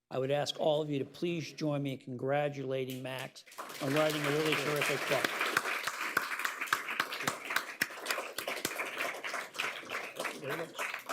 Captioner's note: applause